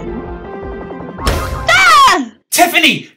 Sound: door slams

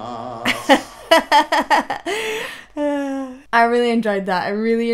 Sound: laughs

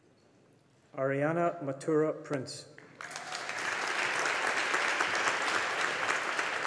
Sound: audience applauding

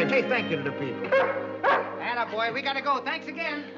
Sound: barks

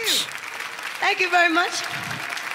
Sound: clapping

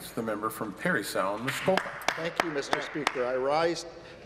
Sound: some Applause

